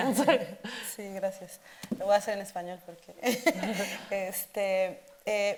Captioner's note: speaking Spanish